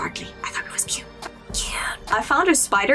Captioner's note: whisper